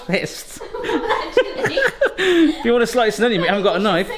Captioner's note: giggles